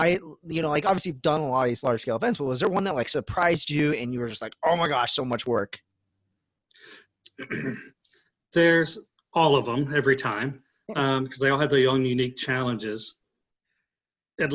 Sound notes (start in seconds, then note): 11.5 laughs